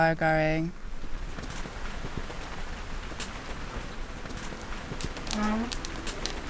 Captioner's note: gentle rain on the roof; fire crackling